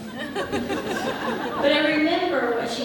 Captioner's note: audience laughs